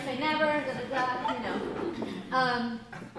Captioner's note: laughter